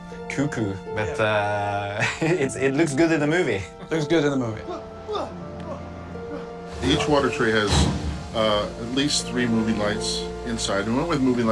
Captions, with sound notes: (CHUCKLES) But it looks good in the movie. Looks good in the movie. (MAN GRUNTING) Each water tray has at least three moving lights inside. And we went with moving lights 'cause we knew